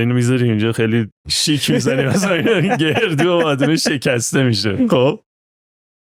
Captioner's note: laughs